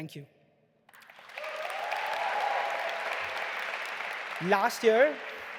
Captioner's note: audience applauding and cheering